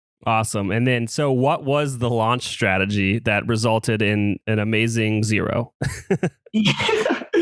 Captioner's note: laughs